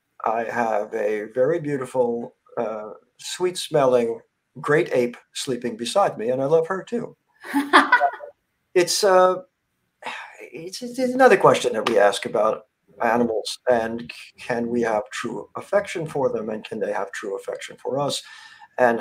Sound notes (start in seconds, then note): 7.5 laughs